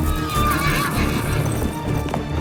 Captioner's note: horse neighs; dramatic music